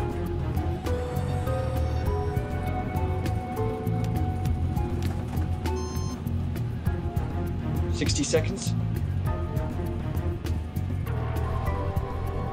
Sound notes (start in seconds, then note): 0.1 tense music; 5.6 monitor beeps; 9.5 tense music